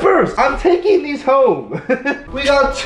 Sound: laughs

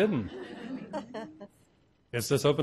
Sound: crowd laughing

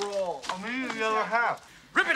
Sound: with mouth full

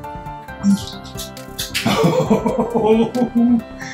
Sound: giddy laughter

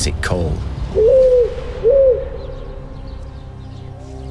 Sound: owl hooting

